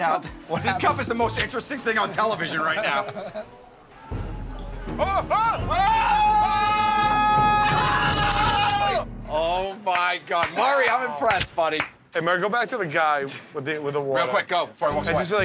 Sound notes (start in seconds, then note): 4.9 all screaming